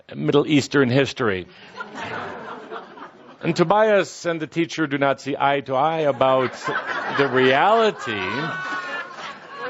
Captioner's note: laughter